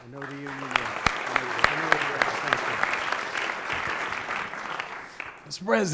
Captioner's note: applause